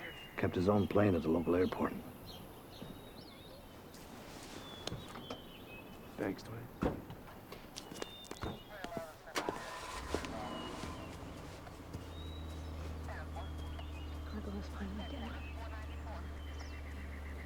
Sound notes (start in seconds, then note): 9.0 car engine starting